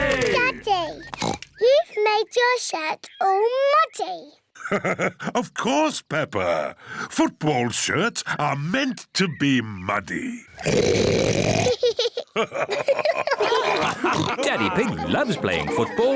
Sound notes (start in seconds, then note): 0.8 oinks; 4.5 laughs; 10.3 oinks loudly; 11.6 both laugh